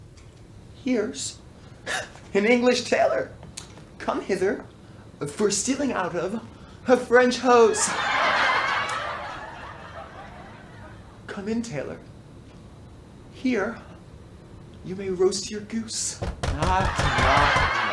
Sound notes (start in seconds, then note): 7.7 laughter